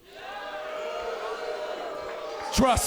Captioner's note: cheers & boos